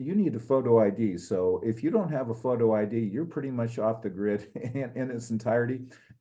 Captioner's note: laugh